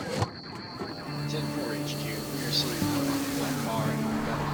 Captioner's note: Silver Legion radio chatter